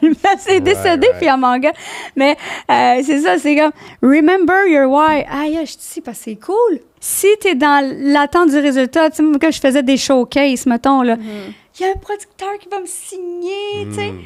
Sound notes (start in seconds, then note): 0.0 in french